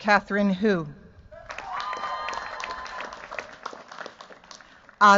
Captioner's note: cheers, applause